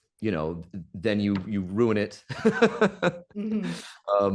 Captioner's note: Professor Greenlight laughs